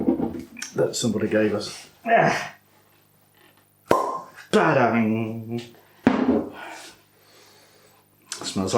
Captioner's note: pop!